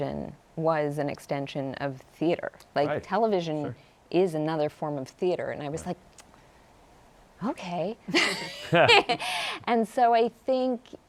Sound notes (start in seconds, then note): 8.2 laughs